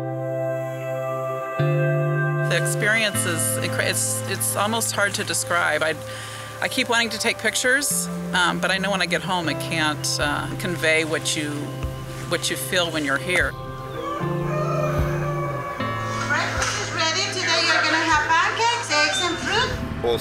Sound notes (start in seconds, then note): 13.8 rooster crowing